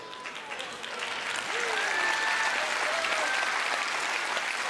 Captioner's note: audience applauding